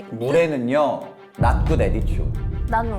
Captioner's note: speaking in English